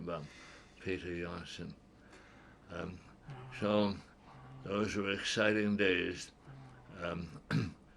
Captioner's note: laughs